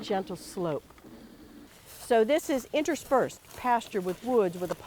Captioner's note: walking